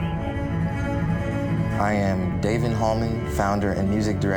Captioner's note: siren wails; melancholy string music